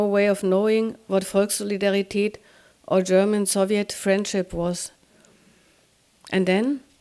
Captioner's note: speaking german